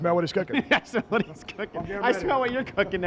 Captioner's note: chuckles